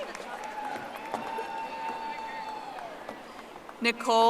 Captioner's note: audience applauding